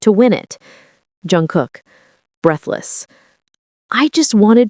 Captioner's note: breathless